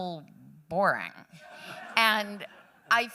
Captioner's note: laughter